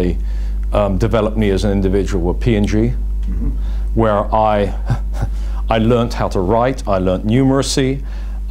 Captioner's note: laughs